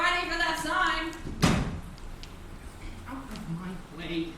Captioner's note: lid slamming shut